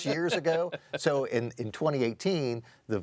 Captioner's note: panelist laughing